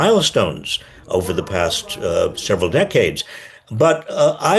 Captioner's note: Biden faintly speaking